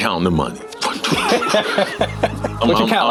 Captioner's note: laughing